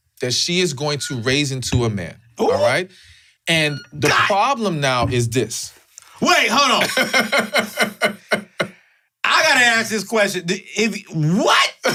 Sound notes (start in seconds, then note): 6.7 laughs